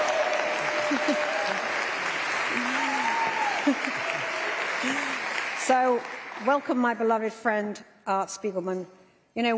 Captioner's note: cheers and applause; laughter